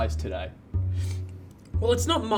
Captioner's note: sniffs